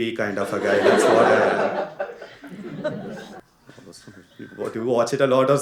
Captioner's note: One guy continues laughing thinking about Suryavamsam movie